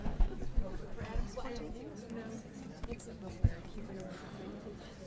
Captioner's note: people chattering